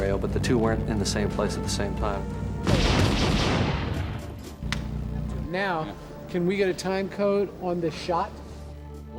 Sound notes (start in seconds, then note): 2.6 gun firing